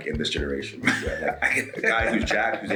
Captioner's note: laugh